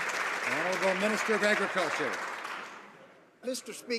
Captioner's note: some applause